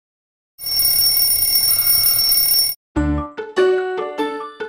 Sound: loud ringing

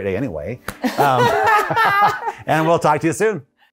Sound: both laughs

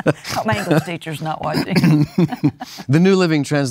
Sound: laughs

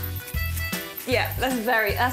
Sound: hat shaking

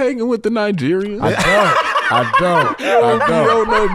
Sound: laughs

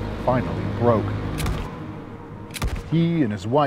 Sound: gunshots

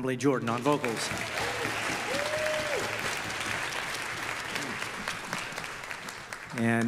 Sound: audience applause

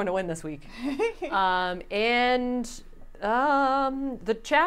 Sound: giggling

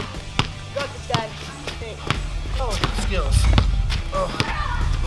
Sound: dribbling drowns out speech

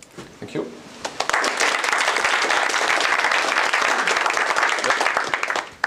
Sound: applause

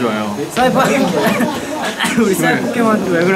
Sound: cough

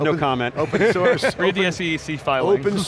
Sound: laughs

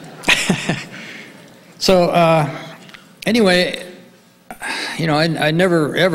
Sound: laughs

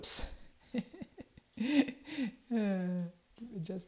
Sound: laughs

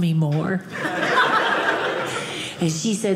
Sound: audience laughing

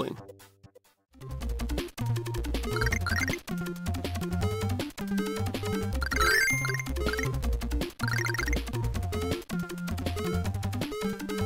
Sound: game sounds

